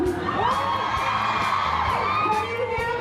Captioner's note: cheering